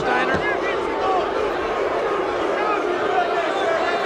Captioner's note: audience barks